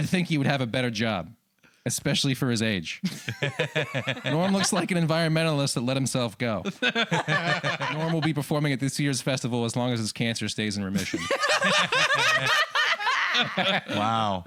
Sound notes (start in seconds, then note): 3.0 laughter; 8.4 laughter